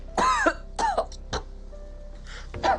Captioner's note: coughing